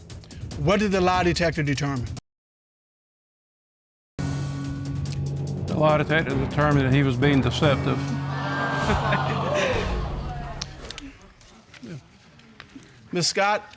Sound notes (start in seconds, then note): 7.8 audience exclaiming